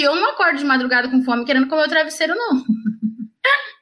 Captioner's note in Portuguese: risos